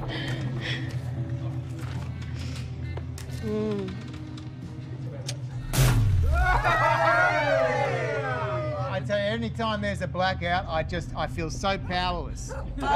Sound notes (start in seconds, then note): 1.7 sighs; 5.1 powering down sound; 6.2 cheering; 12.5 groaning and laughing